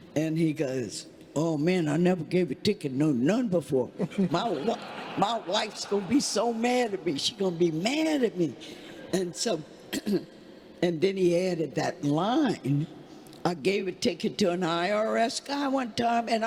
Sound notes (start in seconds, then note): 4.0 congregation laughing